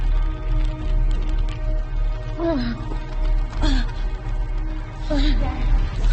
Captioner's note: suspenseful music; Juliette moaning